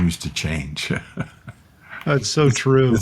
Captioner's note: chuckling